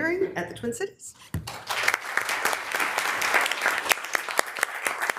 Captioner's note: members applauding